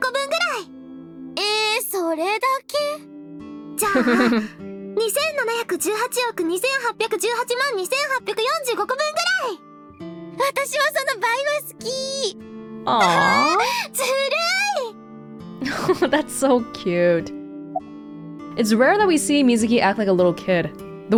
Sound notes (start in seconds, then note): 3.8 chuckles; 15.6 chuckles